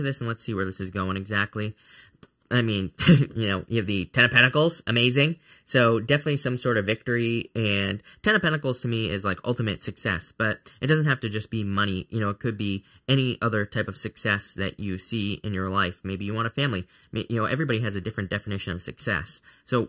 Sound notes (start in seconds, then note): 3.0 chuckling